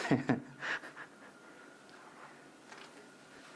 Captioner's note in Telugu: నవ్వు